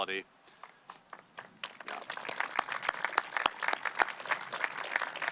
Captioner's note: audience clapping